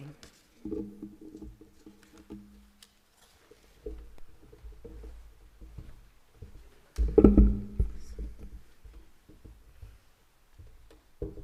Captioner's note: no speech